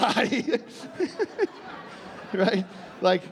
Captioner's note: laughing